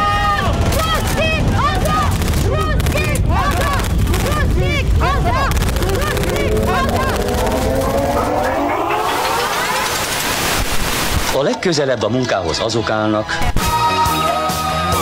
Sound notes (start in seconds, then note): 8.4 sounds of time travel